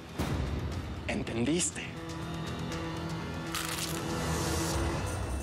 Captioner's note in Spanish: ruido al morder la cebolla